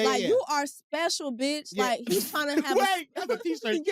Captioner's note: laughs